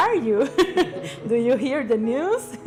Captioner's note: laughter